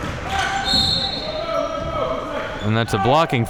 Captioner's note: whistle blowing